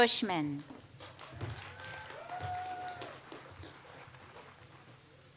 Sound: audience applauds

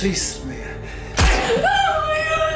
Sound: gun firing

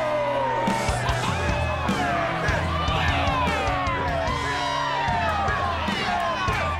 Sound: cheering

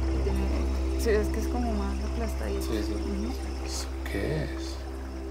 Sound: speaking in foreign language

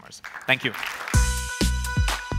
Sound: applause

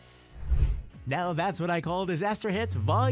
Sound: air swish

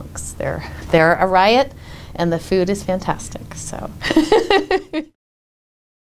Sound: laughs

